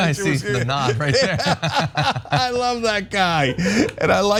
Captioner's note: laugh